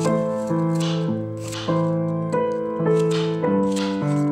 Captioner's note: the chopping noise is satisfying